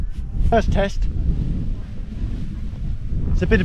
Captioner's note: wind blows